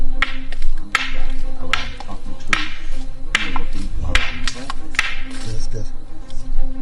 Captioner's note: dramatic music; rocks clacking